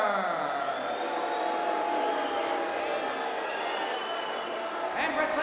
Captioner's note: crowd cheering